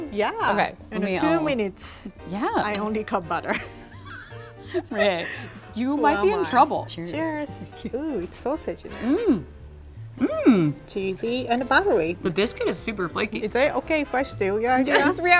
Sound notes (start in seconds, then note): 3.9 laughs